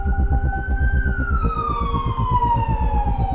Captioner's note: ambulance sirens